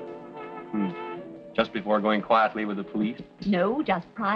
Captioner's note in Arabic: يهمهم